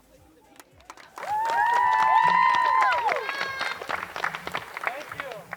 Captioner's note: crowd cheers and applauds